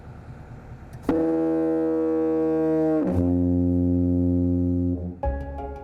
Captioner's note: sound of foghorn